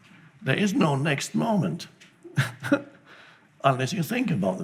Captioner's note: laughs